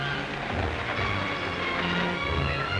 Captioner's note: dramatic music; hooves pounding; dramatic music